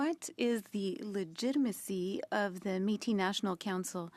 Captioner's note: speaking French